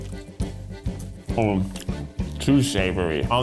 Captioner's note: humming